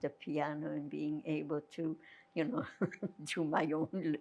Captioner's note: laughing